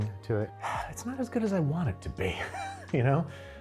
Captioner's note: laughs; sighs